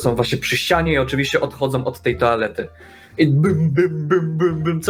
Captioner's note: bonk bonk bonk